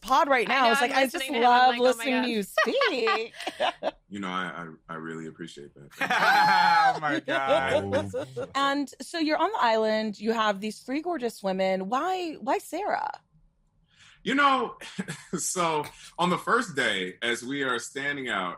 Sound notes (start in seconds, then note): 5.9 laughter